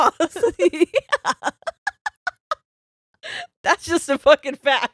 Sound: both laughing

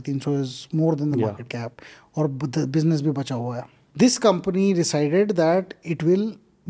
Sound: speaks in Hindi

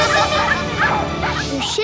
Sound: laughing; barking

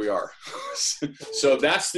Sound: chuckles

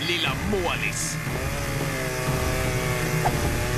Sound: chain saw revving

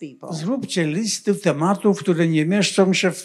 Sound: foreign language

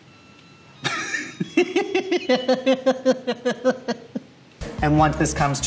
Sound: laughing

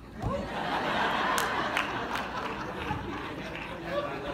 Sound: laughter

